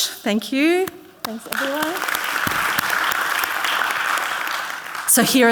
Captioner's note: audience clapping